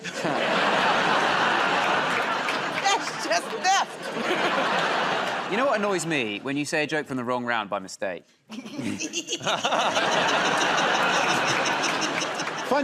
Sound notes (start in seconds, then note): 0.0 laughter and applause; 3.8 laughter; 9.1 laughter and applause